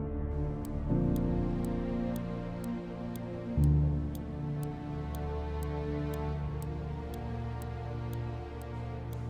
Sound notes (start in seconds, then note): 0.7 clock ticking